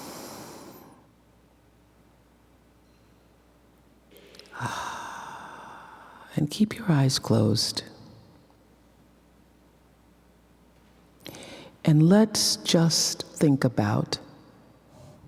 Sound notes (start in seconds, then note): 0.0 inhaling; 4.2 exhaling